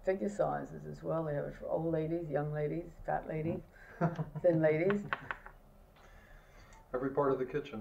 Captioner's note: laughter